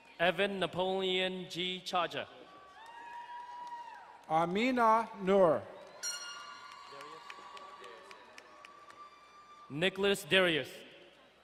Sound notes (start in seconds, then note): 2.5 crowd cheering and applauding; 5.8 horn blaring, audience applauding